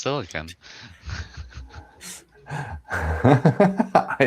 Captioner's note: laughs